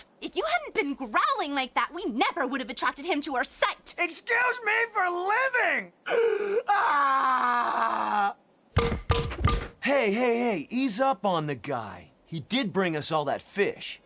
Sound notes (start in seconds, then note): 6.0 inhales; 6.1 wailing